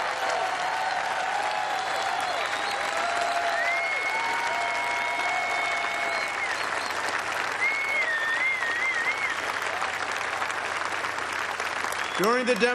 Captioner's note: cheers and applause